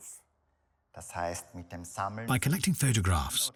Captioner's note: speaks in foreign language